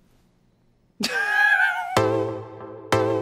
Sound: laughs; dance music plays

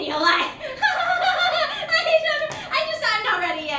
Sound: Corrine nervously laughs

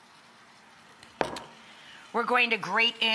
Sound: glass clunking

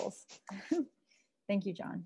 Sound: laughs

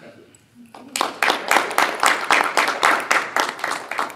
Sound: applause

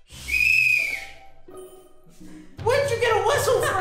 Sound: whistle blowing

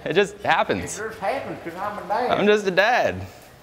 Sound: in fake accent

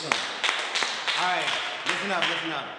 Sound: all clapping

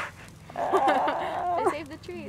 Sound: laughing

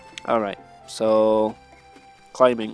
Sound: none

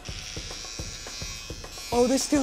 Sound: clippers buzzing

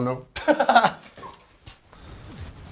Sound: laughs

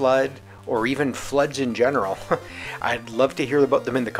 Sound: heh

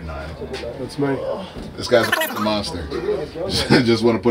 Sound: beep

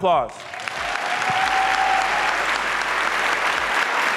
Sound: audience applauds

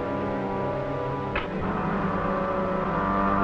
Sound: clacking; devisualizer humming

